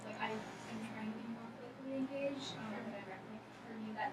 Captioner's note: speaking softly